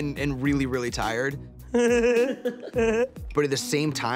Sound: laughing

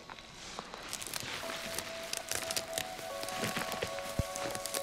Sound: foliage rustling, twigs breaking

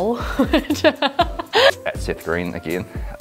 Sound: laughing

